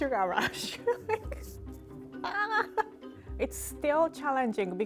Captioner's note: laughing